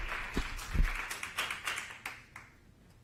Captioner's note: applause